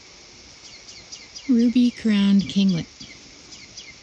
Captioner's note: bird